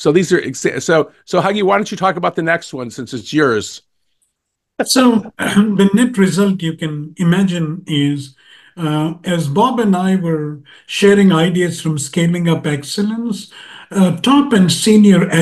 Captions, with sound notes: So, Huggy, why don't you talk about the next one, since it's yours. >> So, [COUGH] the nip result you can imagine is, as Bob and I were sharing ideas from Scaling Up Excellence, top and senior echelons